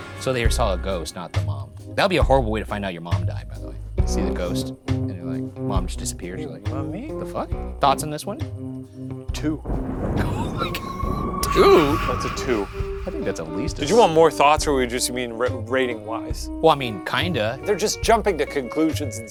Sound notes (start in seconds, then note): 9.4 thunder rumbling